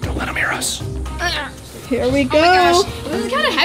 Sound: grunting

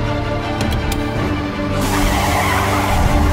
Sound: car Screeching

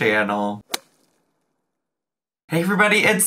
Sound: logo thuds

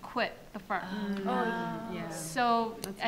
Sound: audience and panelists groan

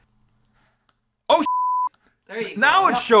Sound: beeps

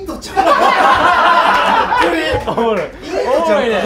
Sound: laughters

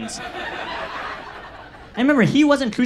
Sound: audience laughs

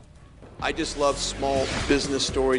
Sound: whoosh

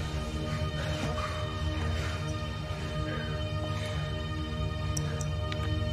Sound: breaths heavily

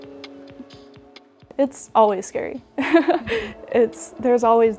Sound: laughs

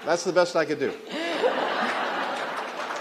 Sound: laughter and applause

